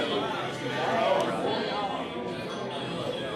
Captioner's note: chatter